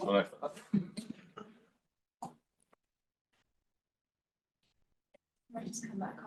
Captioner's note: audio clipping